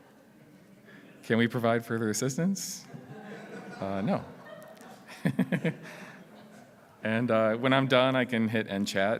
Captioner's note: laughs